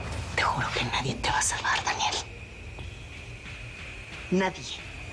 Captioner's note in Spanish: Susurra